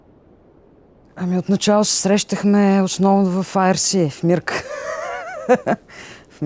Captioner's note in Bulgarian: смее се